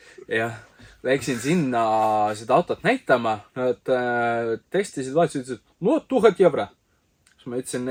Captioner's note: in thick russian accent